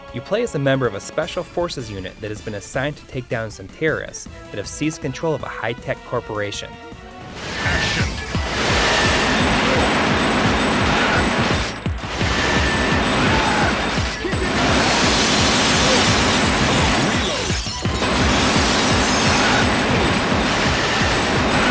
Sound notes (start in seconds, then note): 11.4 game audio